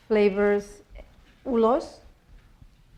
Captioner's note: spanish